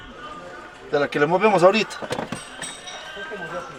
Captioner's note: in Spanish